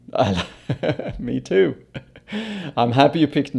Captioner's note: laughs